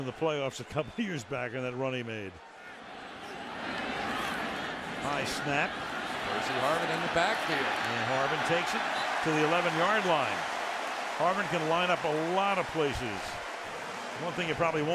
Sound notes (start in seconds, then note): 10.9 cheering